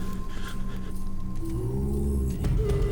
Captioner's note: low growl